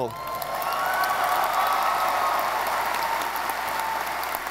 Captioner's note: audience applauding